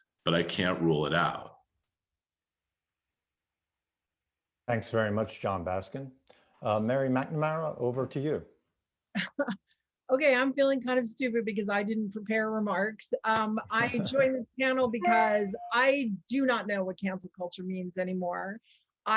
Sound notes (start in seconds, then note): 10.5 chuckling; 13.8 everyone chuckling